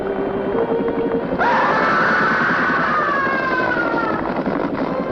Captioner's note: scream